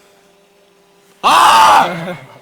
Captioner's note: screams